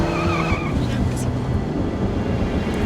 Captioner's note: Alejandra mutters